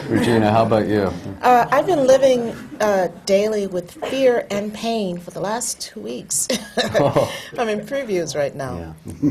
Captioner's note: laughs